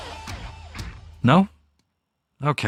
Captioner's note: deathly silence